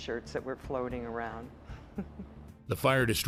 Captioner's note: laughing